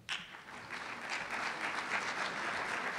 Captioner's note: applause